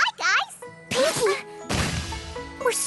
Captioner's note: thud!